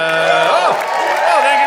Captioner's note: audience cheering